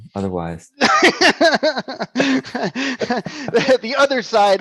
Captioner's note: laughs